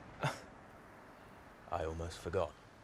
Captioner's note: James chuckles